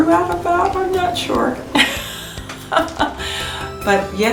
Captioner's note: laughs